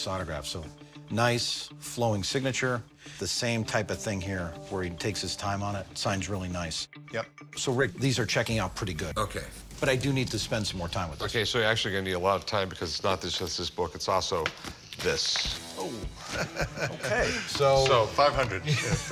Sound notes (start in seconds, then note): 16.0 chuckles